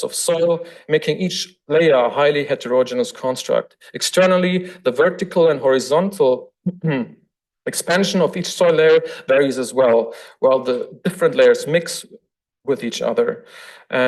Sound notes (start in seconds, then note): 6.7 throat clearing